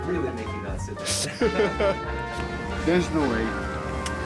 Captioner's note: riders laughing